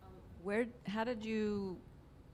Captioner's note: voiceover